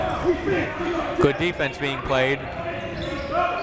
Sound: shouting

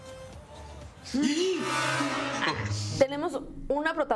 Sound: Grito ahogado

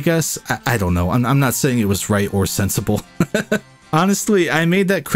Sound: laughs

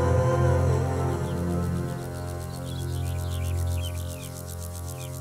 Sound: crickets chirping

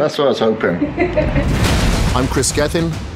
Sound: girlfriend laughs

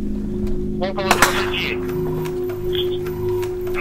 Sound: radio exchange

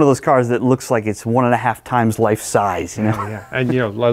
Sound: chuckles

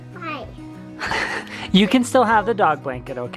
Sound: chuckles

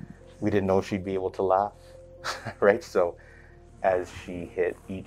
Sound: laughter

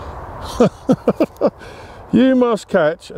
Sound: chuckles

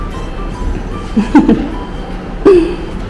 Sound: laughs

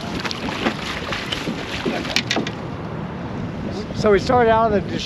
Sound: water lapping

